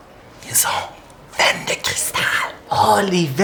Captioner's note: whispers